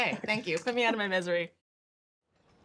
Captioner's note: laughs